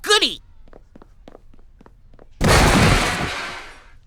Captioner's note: loud crash and objects clatter